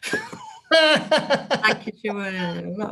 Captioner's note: both laugh